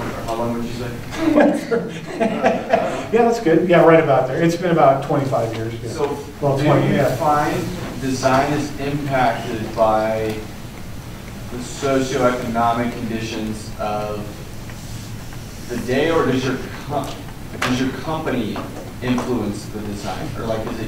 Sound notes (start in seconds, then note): 1.1 laughter